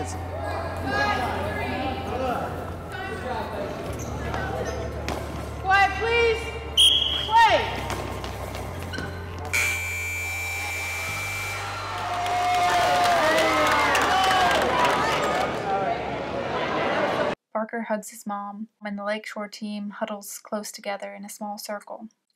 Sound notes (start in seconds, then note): 6.7 whistle; 9.6 crowd cheering